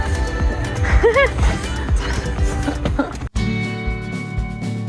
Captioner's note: laughing; upbeat music